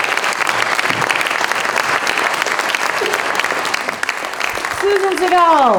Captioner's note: applause, cheers continue